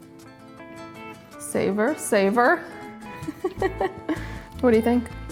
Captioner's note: laughs